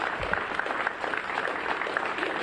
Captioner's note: applause